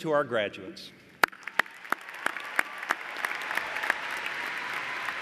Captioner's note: cheers and applause